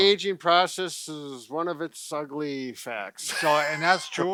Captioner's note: chuckles